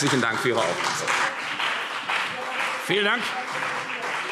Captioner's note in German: Beifall CDU und BÜNDNIS 90/DIE GRÜNEN